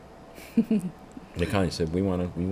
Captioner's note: laughs